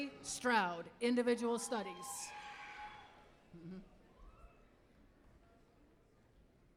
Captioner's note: applause